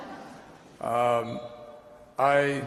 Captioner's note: laughter